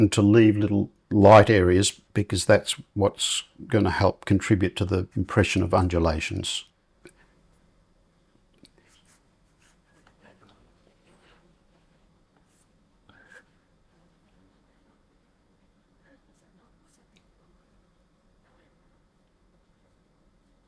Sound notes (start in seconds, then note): 8.8 silence